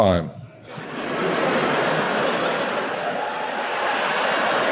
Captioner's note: audience laughs